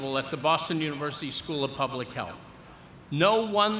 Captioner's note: none